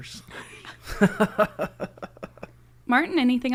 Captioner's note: laughing